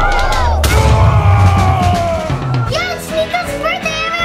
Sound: yelling

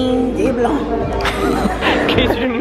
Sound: laughing

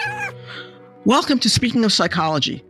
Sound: cat meowing

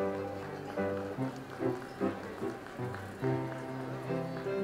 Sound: audience applauds

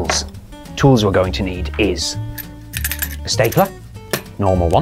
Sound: stapler rattles

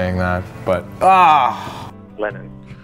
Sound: groans

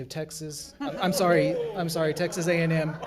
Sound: crowd laughs

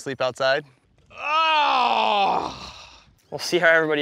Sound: grunts

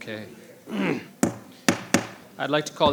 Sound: clears throat

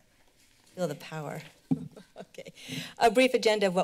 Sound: laughs

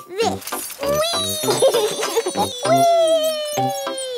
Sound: laughs

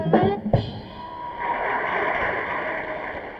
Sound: audience applauds

